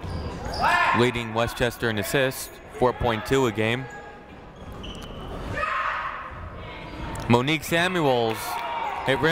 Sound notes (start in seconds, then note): 5.5 people shouting in the crowd